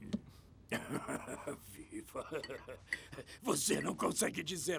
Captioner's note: chuckling